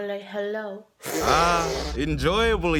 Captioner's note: slurping